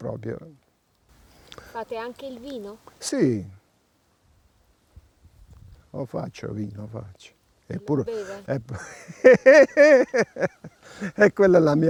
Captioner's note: laughing